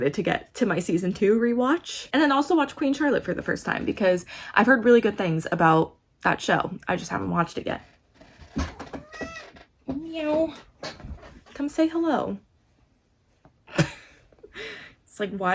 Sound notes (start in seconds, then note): 8.7 sam meows